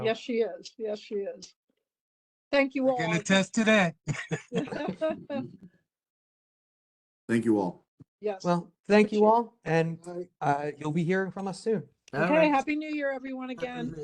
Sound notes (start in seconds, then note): 4.0 laugh